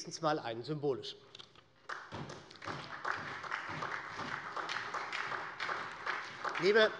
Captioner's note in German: Beifall bei der SPD